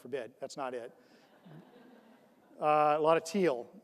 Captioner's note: audience laughs